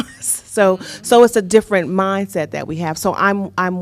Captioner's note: laughter